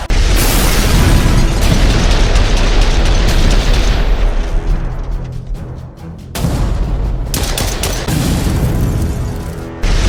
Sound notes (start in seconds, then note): 0.0 explosions booming; 0.1 gun blasting; 4.2 intense music; 6.3 gun blasts; 6.4 explosion booms; 8.0 explosion boom; 9.8 explosions booming